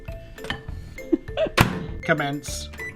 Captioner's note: laughing